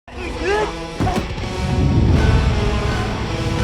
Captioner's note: men grunt; threatening music